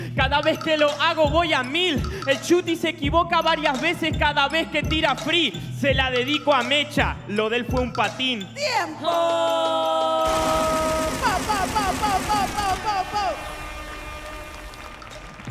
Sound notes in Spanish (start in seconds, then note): 9.6 Aplausos